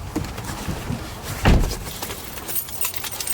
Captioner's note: door clicks open; door thuds closed; keys jingling